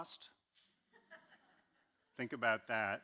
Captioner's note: audience laughing